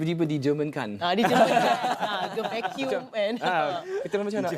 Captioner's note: laugh